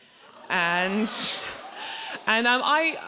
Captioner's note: audience laughs and cheers